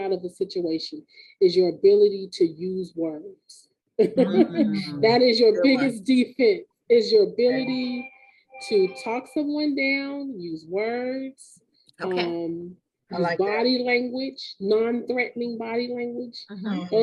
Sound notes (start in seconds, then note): 4.0 laughing